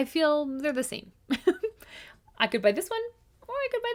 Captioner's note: laughs